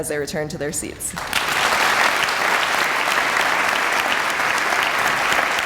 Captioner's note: audience applauding